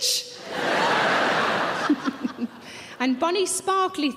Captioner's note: audience laughing